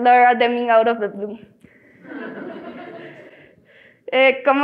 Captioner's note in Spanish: Risas